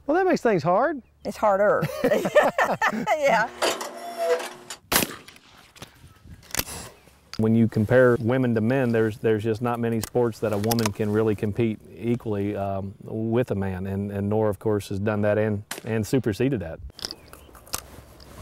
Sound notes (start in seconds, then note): 1.8 laughter; 4.9 bang